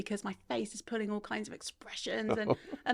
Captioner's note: laughing